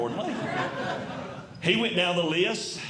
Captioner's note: audience Laughing